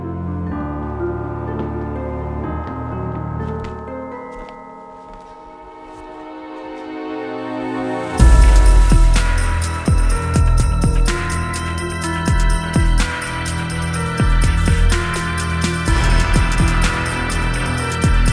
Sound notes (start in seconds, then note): 2.4 footsteps